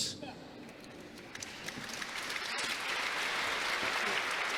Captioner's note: congregation applauding